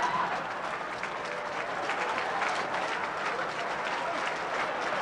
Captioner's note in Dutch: publiek applaudisseert